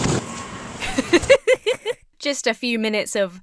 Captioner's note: feet thudding violently; laughs